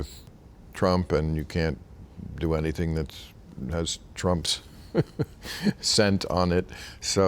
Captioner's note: laughing